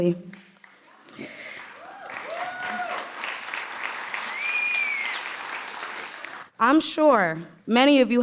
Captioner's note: applause